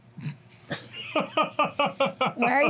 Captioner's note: laughing